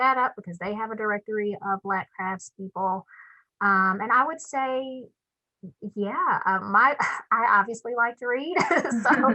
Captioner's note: laughs